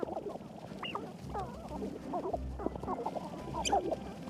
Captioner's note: clucking